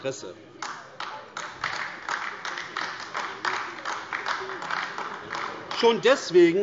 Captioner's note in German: Beifall AfD